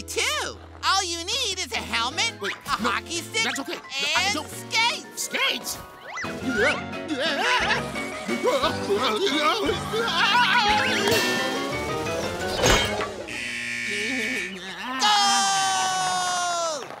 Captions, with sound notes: All you need is a helmet, a hockey stick and skates! Skates? Ah! Whoa! [screams] [buzzer] Goal!